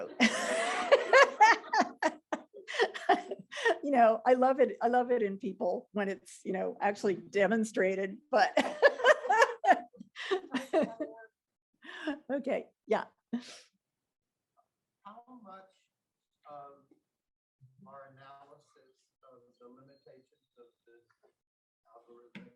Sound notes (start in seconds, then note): 7.9 laughing